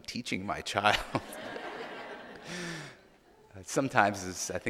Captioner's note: audience laughing